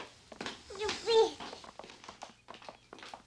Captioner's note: baby cooing